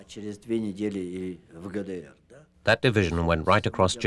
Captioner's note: speaking russian